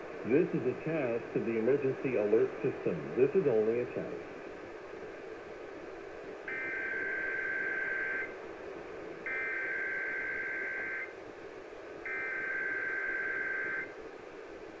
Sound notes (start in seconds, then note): 6.5 EAS header tones